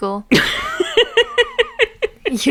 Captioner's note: laughs